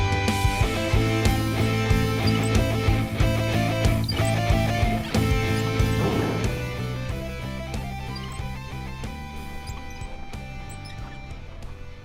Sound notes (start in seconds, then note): 9.8 wheels squeaking